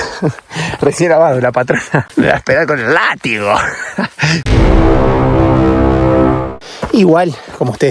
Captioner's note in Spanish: risas